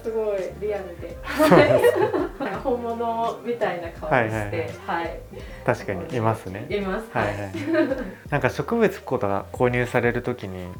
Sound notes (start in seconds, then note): 1.2 laughs; 6.1 laughs; 7.1 laughter